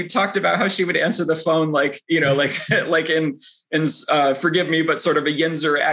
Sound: chuckles; chuckles

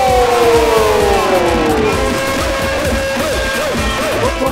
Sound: cheering

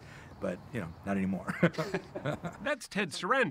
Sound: laughing

